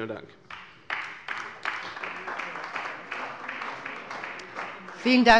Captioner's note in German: Beifall bei der CDU